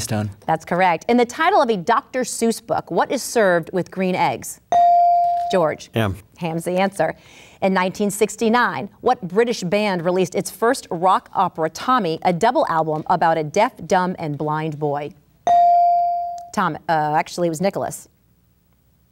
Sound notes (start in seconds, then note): 4.7 ding; 15.4 ding